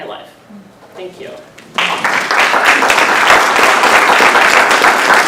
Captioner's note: applause